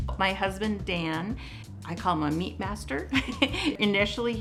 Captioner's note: chuckles